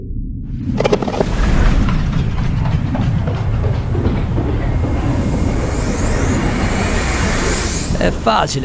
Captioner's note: dystopian sound